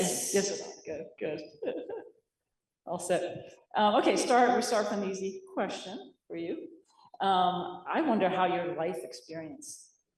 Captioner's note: laughs